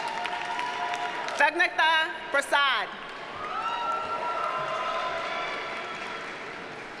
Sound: audience cheers and applauds

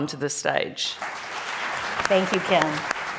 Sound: audience applauding

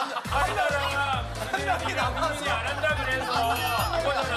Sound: awkward laughter

